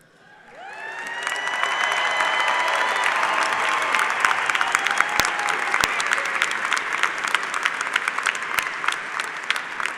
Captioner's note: cheers and applause